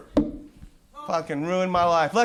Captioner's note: microphone pop